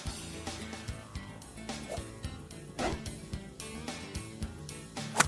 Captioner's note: club thwacks; club thwacks